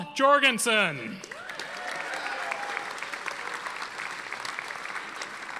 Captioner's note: audience applauding